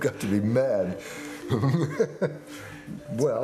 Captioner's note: chuckling